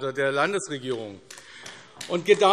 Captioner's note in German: Beifall AfD